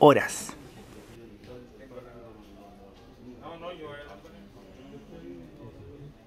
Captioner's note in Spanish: sonido ambiente del bus y entorno